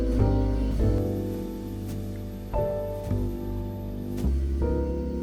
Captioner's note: scrubbing brushes